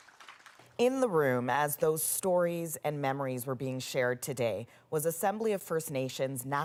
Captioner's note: applause